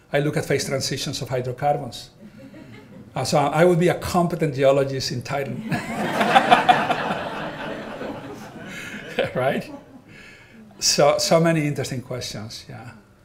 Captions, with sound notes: I look at phase transitions of hydrocarbons. (audience laughing) And so I would be a competent geologist in Titan. (all laughing) So many interesting questions, yeah.